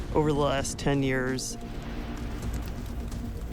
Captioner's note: fire crackling